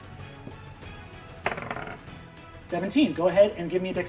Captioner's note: die rolling